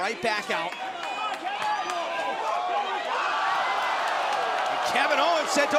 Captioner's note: crowd cheering